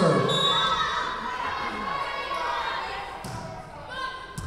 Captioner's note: whistle blowing